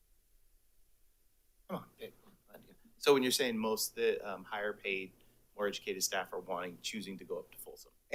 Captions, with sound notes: - Come on (faintly speaking) - So when you're saying most of the higher paid, more educated staff are wanting, choosing to go up to Folsom?